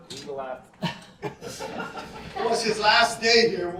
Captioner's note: laughter